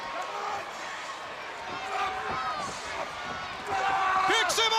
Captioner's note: crowd chatter